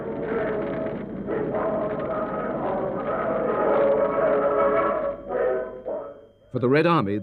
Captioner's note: fire crackling